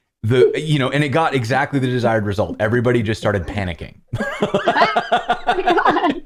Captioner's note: laughter